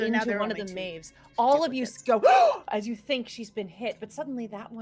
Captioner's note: gasping